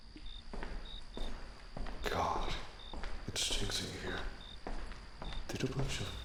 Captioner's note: footsteps echo